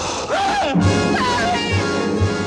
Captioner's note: gasping